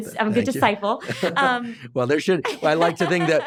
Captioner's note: laughs